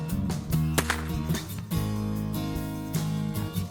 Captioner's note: crack!